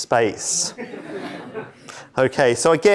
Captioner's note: laughter